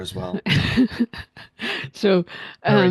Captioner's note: laughs